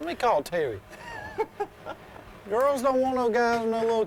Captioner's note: laughs